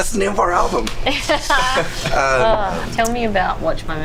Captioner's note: laughs